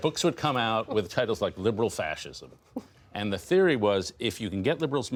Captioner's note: laughter